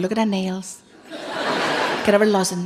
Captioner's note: laughing